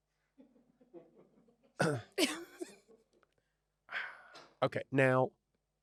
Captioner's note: production member laughs